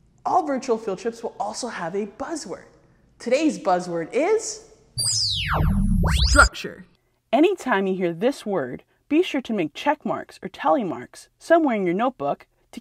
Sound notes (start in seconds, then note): 5.0 magical sound